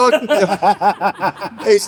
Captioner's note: laughter